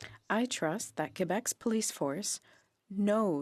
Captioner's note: speaking French